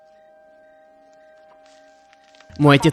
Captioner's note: frog croaking